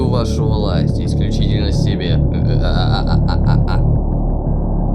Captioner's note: villainous laughter